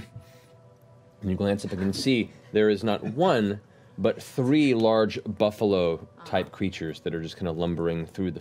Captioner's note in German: leises Grunzen